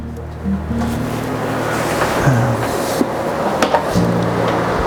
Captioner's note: machine whirring